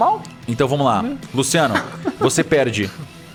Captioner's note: laughs